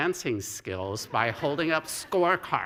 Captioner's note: laughter